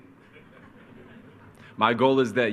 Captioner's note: attendees chuckle